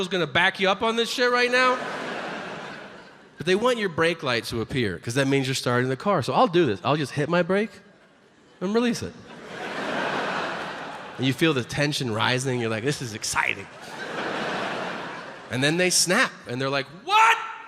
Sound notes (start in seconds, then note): 9.2 audience laughs